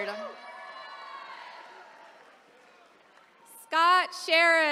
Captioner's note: attendees cheering